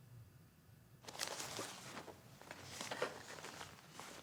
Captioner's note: supplies rustling